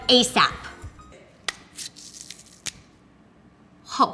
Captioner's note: celery stalk snaps